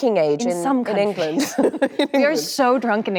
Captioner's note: laughs